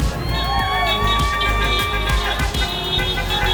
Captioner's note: horns honking; crowd cheering